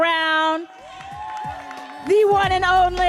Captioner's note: audience cheering and applauding